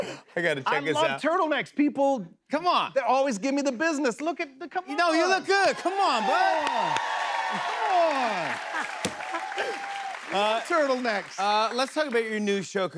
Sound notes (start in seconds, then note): 5.8 cheers and applause; 8.0 laughs